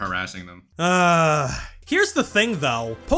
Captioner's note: sigh